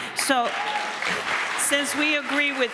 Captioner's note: audience applauds